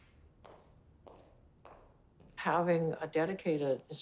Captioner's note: footsteps echo